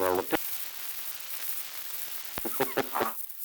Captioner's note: production chatter